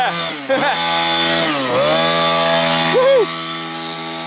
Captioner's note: laughs; engine roaring